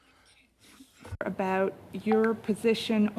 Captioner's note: speaking French